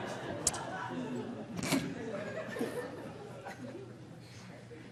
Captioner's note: audience laughing